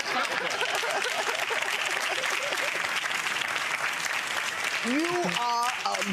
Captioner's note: audience laughing and clapping